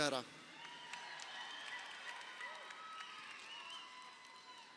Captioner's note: crowd cheering